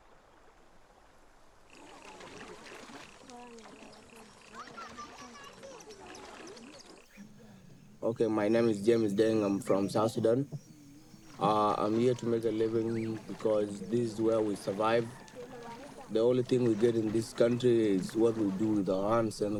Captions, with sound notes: [INDISTINCT CHATTER] [BIRDS CHIRPING] Okay, my name is James Dengham from South Sudan. Umm... I'm here to make a living because this is where we survive. The only thing we get in this country is what we do with our hands,